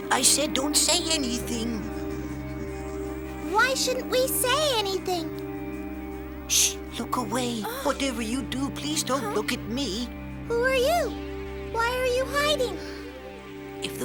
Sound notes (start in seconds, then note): 0.0 shushing; 6.0 shushing